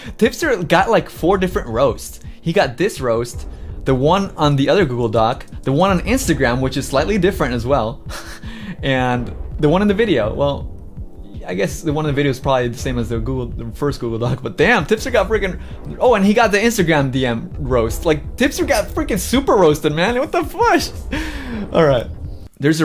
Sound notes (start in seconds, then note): 8.0 chuckles